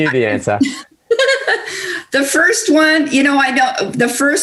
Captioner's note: laughs